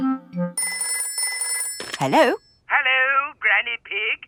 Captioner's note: telephone ringing